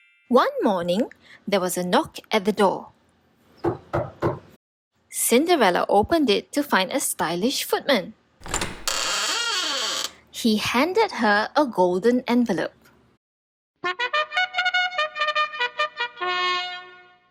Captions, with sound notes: One morning, there was a knock at the door. [knocking] Cinderella opened it to find a stylish footman. [door opens] He handed her a golden envelope. [royal trumpet]